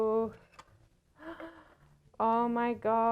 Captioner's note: gasp